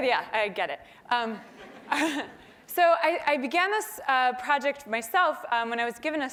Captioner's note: laugh